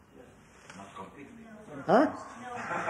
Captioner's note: laughter